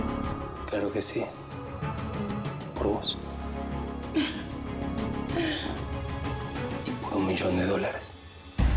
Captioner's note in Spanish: Ella ríe